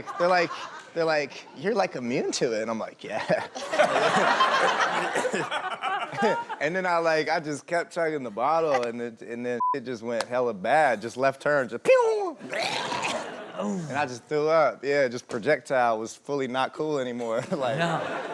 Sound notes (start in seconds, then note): 3.3 laughing; 9.6 beep